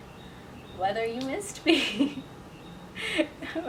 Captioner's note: laughs